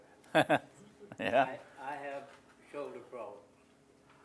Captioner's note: laughs